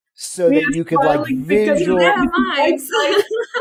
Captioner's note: laughs